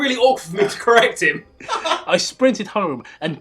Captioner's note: laughter